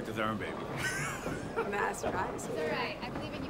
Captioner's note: man laughs